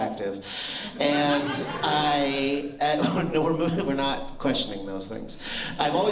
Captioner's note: laughter